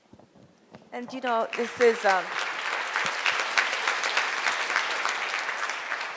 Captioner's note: audience applauds